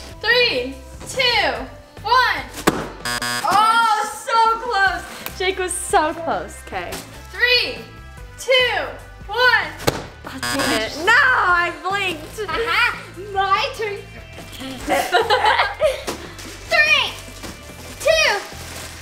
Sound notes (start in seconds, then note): 3.0 buzzer; 10.3 buzzer; 14.5 laughing